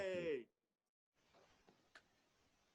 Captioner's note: cheers